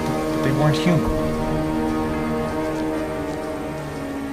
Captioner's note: birds chirping; suspenseful music